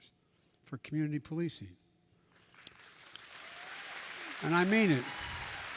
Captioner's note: applause